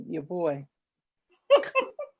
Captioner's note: laughs